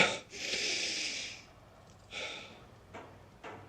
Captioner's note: exhales sharply